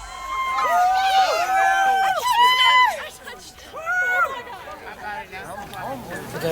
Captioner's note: cheering